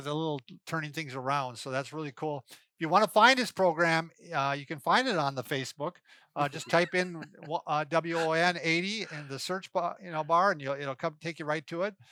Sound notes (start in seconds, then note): 6.4 laughs